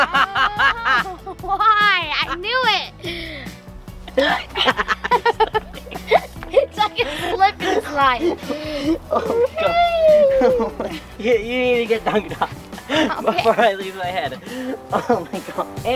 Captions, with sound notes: (laughing) Why? I knew it! (laughing) It's like a Slip and Slide. - You need to get dunked on before I lose my head. Oh my gosh.